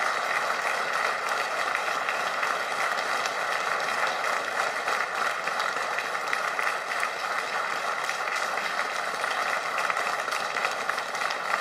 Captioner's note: applause